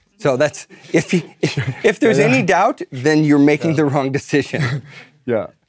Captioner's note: laugh